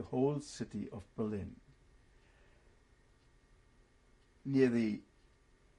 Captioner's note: pauses for 3 seconds